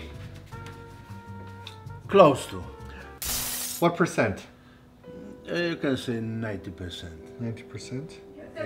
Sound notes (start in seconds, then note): 3.0 heart shatters